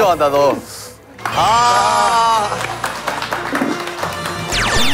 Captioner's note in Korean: 짝짝짝짝짝짝짝짝짝짝